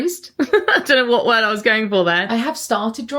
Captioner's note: laughs